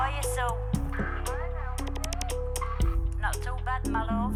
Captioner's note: crackly